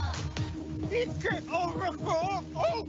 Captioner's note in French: Cris indistincts